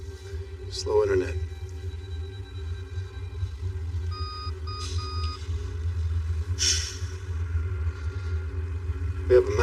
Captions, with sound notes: Slow intnternet. [tense m music] [machine b beeping] [sighs] We have a mamatch.